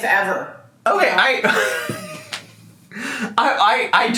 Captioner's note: laughs